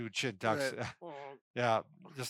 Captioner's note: laughs